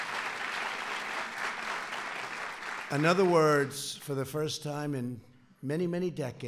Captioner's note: applause